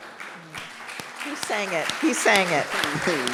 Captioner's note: audience clapping